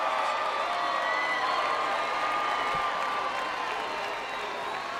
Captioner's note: crowd cheering